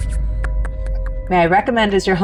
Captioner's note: palm thudding softly